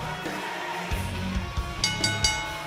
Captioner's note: bell ringing